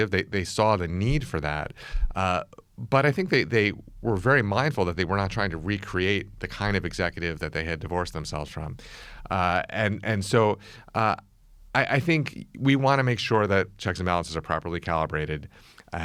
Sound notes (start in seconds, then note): none